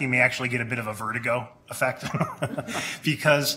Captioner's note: laughs